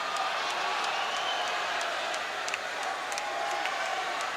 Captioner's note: audience shouting